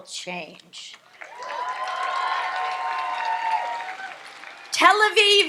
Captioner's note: audience applauds and cheers